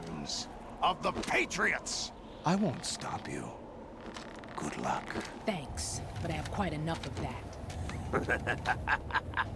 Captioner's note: laughs